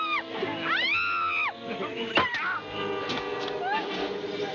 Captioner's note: screaming; chattering